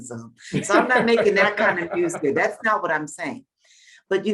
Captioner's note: Bob laughing